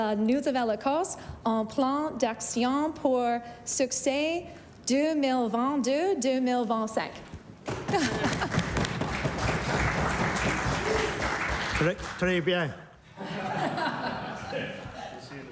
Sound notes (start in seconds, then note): 2.8 speaking in French; 10.4 applause